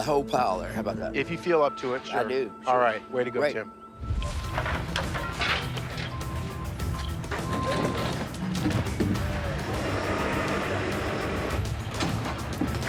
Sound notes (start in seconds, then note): 7.1 intense music; 7.1 trucks revving